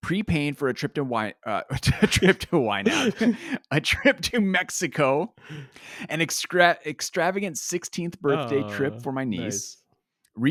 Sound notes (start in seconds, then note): 1.8 both laughing; 2.8 laughs